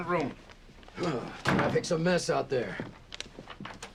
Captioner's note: sighs